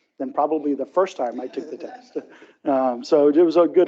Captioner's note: audience laughs